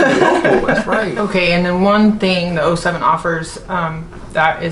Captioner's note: laughs